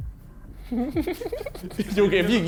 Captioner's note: Tobi laughing